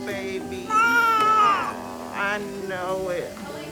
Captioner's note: baby cries